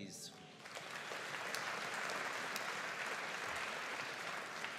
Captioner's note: audience applauding